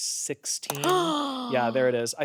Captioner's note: gasps